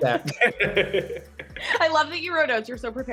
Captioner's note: both laughing